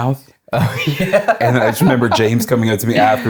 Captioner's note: laughing